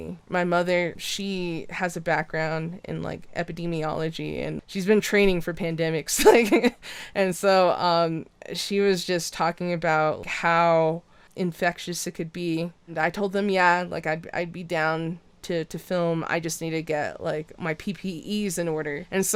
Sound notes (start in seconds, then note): 6.1 laughs